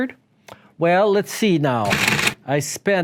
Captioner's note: machine printing